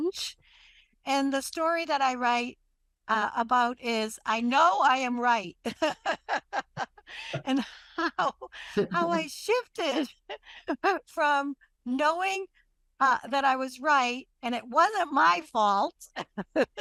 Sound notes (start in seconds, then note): 8.5 laughs